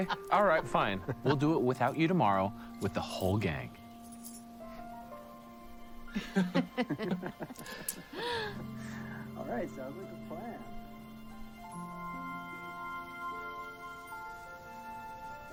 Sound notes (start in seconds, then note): 6.1 laughing